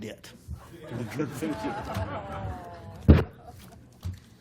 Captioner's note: laughter